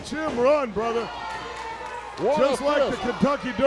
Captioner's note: applause